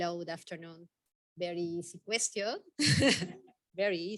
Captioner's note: all chuckle